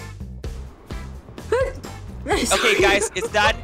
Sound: sneezes

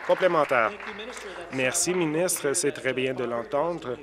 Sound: applause

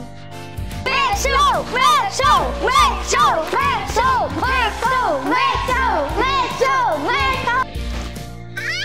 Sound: shouting

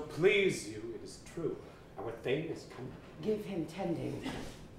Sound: none

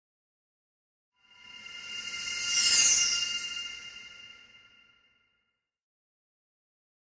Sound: sound of light sweep

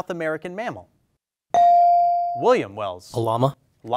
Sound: bell dings

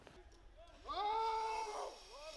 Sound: screams

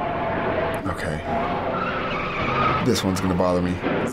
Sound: tires squealing

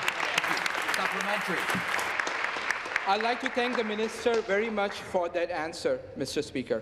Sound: applause

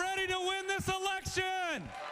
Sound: cheers

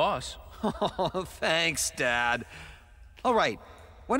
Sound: chuckles; chuckling

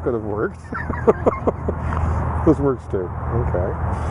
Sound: laughing

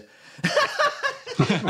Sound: laughter; laughs

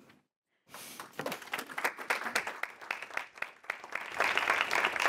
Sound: applause

